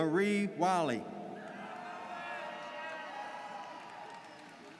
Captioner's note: audience cheers